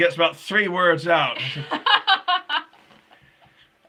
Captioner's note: laughing